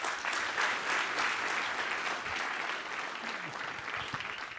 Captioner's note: audience applause